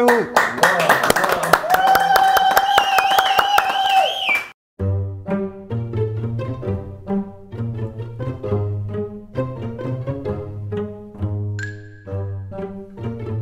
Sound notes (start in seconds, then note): 0.0 everyone claps; 2.2 whistles